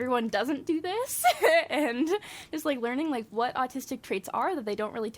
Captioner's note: laughs